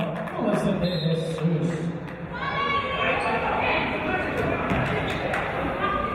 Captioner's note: referee's whistle